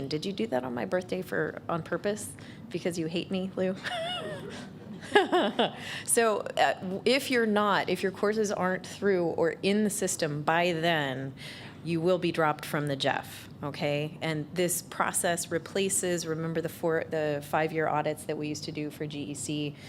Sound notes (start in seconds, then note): 3.8 laughter